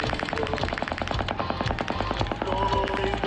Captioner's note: gun firing